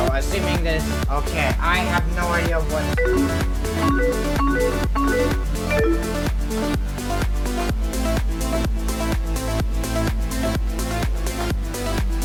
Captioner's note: AOL Instant Messenger noise